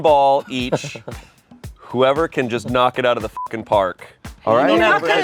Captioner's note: beep